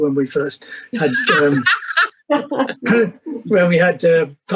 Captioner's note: laughter